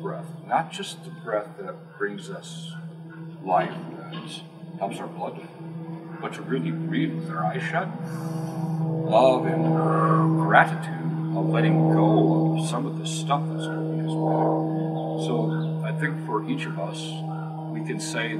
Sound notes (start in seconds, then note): 8.0 exhale; 8.0 inhale